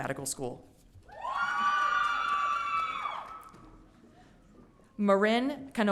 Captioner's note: audience cheering